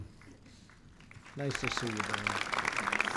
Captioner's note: applause